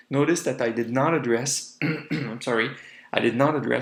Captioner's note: coughs